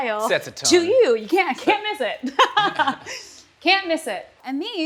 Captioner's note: laughs